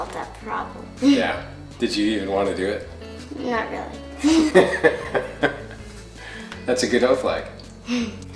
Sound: laughter

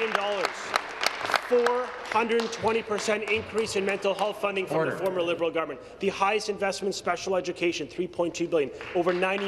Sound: some Applause

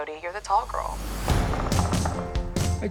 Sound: knocking on door

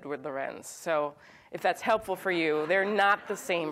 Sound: audience laughs

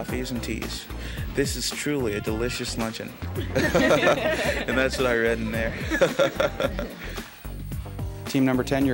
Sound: laughter

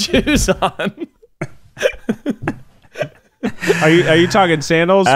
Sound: laughing

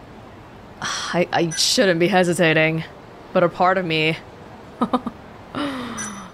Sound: exhales; chuckles

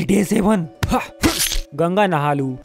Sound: punch

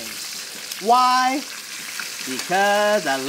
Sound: chicken sizzles

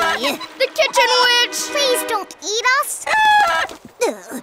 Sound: clucking

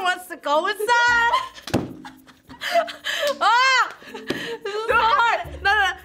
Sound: both laugh

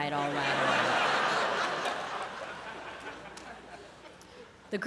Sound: laughter

